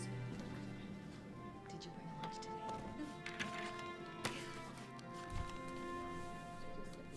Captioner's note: indistinctive chatter